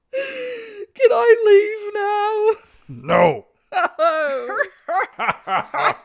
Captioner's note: Rey whines; Leia and Han laugh like villains